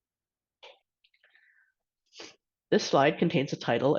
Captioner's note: silence